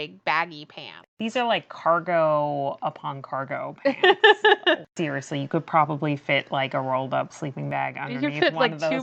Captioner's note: laughs